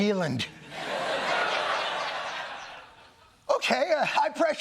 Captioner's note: laughter